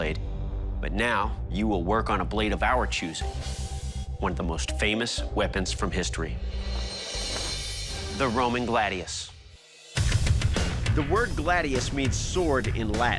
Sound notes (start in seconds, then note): none